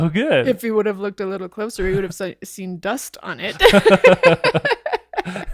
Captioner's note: laughing